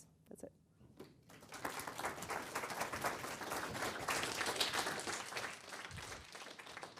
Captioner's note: audience applause